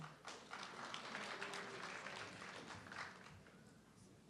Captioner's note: audience clapping